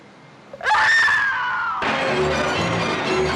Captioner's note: woman screaming